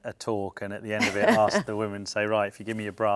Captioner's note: laughs